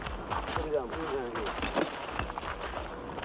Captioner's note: rattling